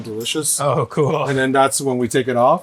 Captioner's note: laughing